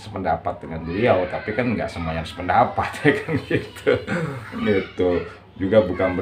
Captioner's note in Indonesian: berdehem